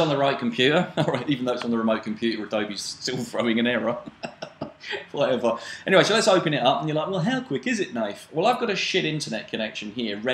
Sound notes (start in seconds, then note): 3.1 laughs